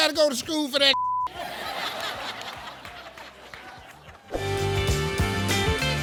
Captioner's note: beep; audience laughs; upbeat music